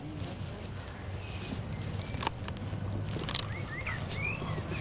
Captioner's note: birds chirping